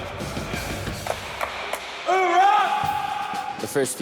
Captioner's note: claps